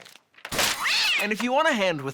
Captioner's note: papers clatter; cat screeches